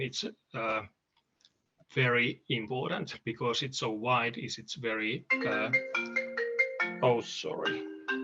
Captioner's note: phone ringing